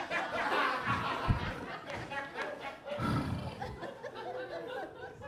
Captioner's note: audience laughs